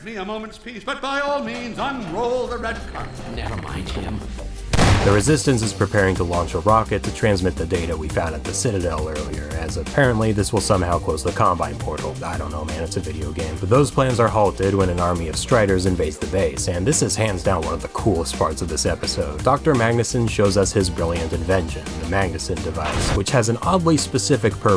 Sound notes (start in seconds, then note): 4.7 b-boom